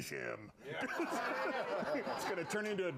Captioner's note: laughter